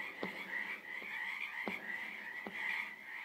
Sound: knocking sound

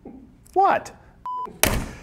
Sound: beep

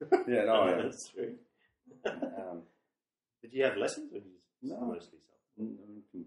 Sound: laughs

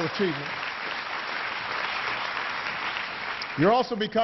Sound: applause

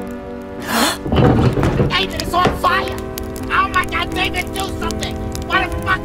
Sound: gasps

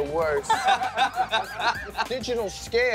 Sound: laughs

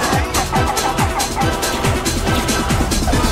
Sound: laughing heroically

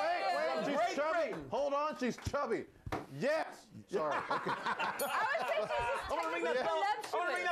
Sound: laughter; bell Rings

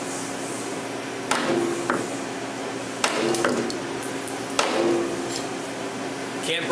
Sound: multiple Hammer Noises

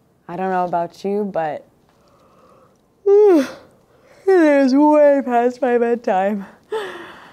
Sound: yawning

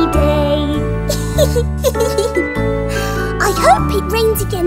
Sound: laughing

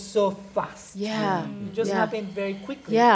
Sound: others agreeing

